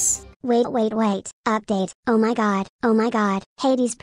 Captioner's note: robot voice